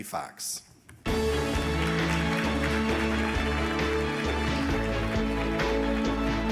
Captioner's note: audience applauding; uplifting music